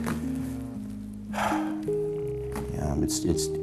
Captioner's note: sighs